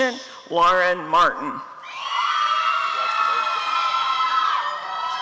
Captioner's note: applause and cheering